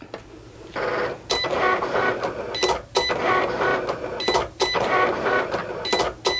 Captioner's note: Cricut whirring; Cricut beeping